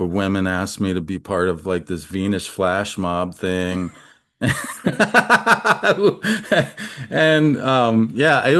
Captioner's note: laughs